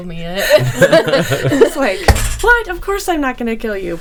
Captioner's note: people laughing